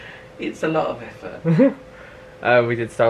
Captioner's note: laughs